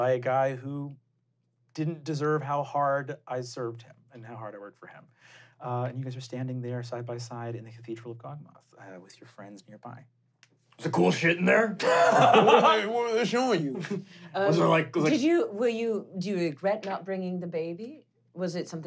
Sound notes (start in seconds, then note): 11.8 laughing